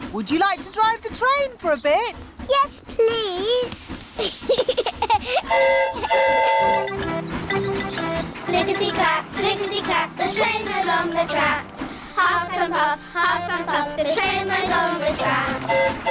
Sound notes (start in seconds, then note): 4.1 giggles; 5.4 train horn toots; 15.2 train horn toots; 15.9 all giggle